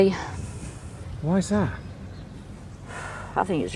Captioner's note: voiceover